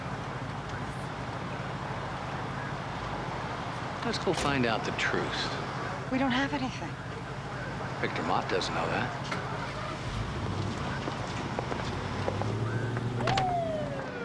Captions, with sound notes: Let's go find out the truth. - We don't have anything. - Victor Mott doesn't know that. (engine starts) (siren whooping)